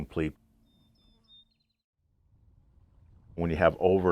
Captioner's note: bird chirping